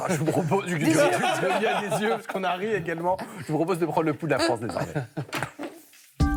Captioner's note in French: rires